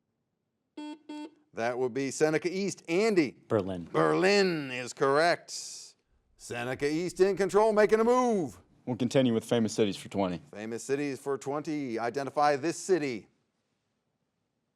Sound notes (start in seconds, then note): 0.8 buzzer beeps